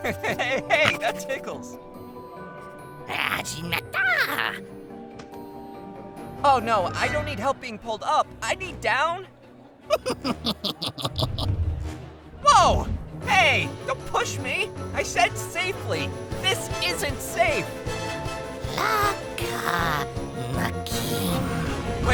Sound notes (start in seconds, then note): 0.0 laughs; 0.0 Hobgoblin starts to sniff